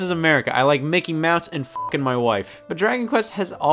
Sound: beep

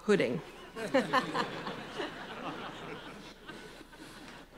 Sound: laughter

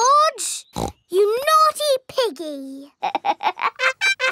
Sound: snorts; laughs

